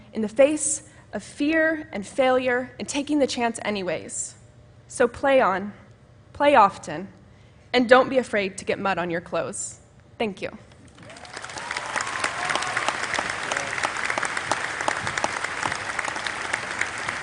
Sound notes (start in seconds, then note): 10.9 applause